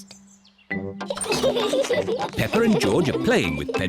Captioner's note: all giggle